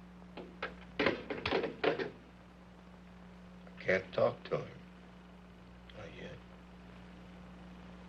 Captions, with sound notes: (handset clanging) - I can't talk to him. Not yet.